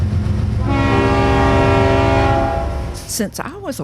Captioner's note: train whistle blows